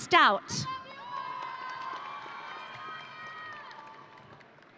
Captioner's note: audience cheering